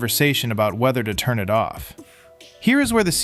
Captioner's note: thoughtful